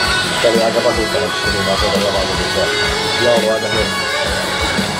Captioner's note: something in Finnish